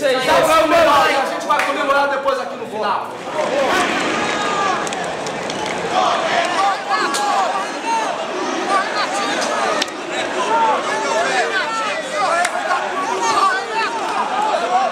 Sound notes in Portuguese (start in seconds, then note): 3.9 sons da torcida